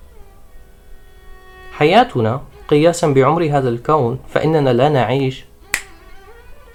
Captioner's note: a fingers snap